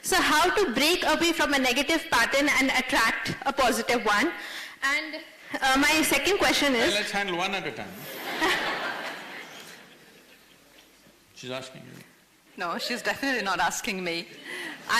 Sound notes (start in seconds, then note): 8.0 laughter